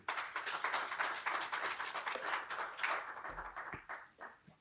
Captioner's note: applause